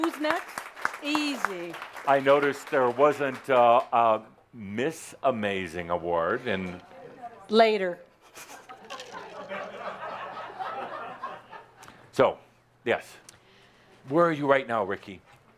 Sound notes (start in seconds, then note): 0.0 audience applause; 8.2 laughter